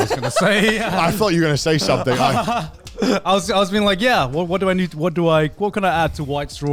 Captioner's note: laughs